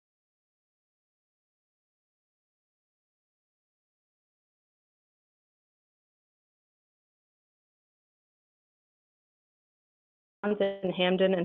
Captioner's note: dead air